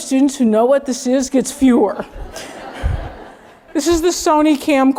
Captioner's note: laugh